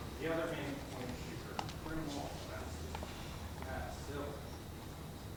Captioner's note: speaking faintly